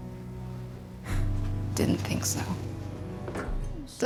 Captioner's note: huffs